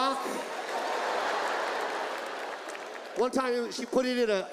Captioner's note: audience laughs